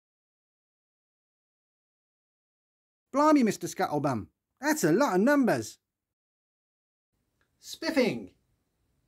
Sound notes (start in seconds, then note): 3.0 london Accent